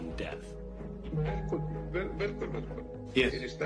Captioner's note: inquisitive music; foreign language spoken